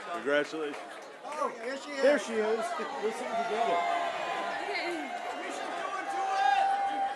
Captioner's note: cheers and applause